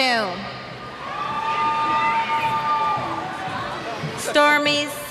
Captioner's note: cheers